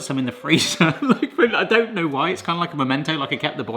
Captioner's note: chuckles